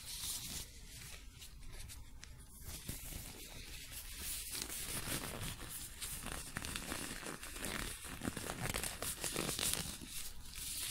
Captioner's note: shuffling, gloves crinking and squeaking